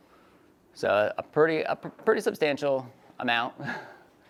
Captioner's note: laughs